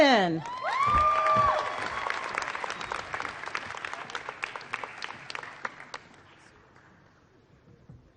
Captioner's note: applause